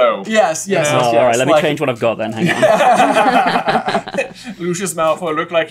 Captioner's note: laughter